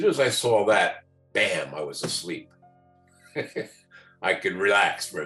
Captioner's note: laughs